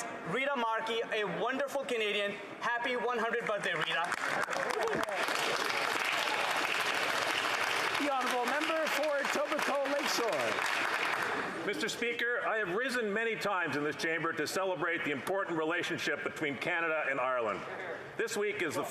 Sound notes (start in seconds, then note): 7.7 some Applause